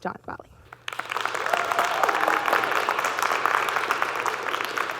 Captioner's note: audience clapping